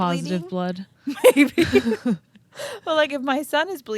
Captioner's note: laughing